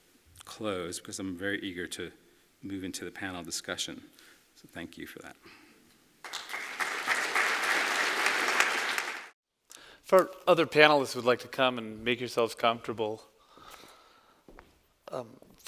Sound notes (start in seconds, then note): 6.2 applause